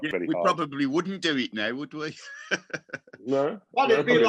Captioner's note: laughs